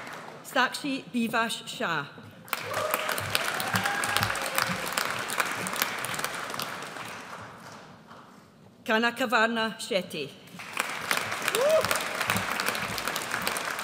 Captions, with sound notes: Sakshi Bhavesh Shah. (AUDIENCE APPLAUDS) Kanakavarna Shetty. (AUDIENCE APPLAUDS)